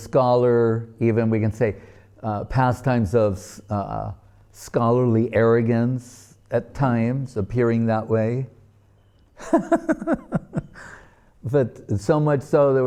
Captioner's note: laughing